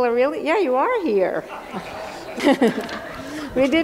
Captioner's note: laughter